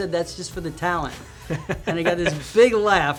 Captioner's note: laughs